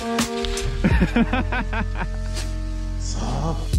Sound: laughing

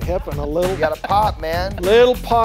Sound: laughing

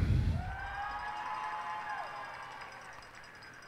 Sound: cheers and applause

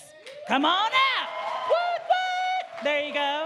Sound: audience cheering

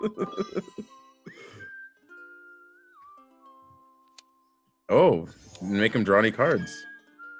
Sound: laugh

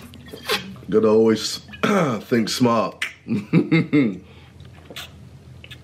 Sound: chuckles

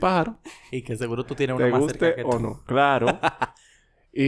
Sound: laughs

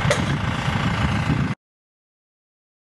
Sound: engine running; silence

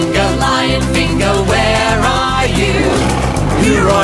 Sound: lion roars

